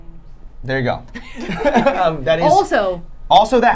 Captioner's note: laughing